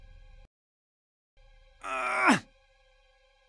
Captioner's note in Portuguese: Grunhindo